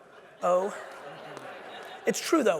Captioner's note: audience laughing